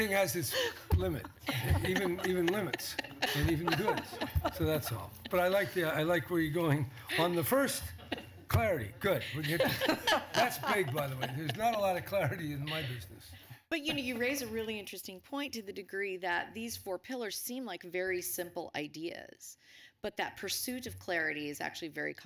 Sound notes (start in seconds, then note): 7.1 laughter